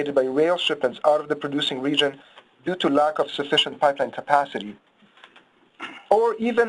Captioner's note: someone clears their throat